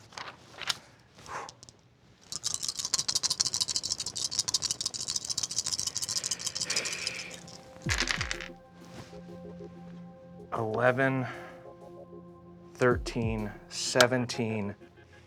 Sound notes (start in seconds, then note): 2.2 dice clattering; 6.8 tense music